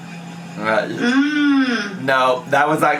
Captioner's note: hums